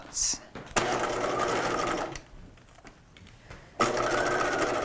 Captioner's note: machine whirring